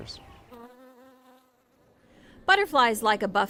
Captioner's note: bee buzzes